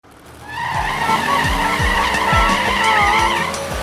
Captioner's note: engines revving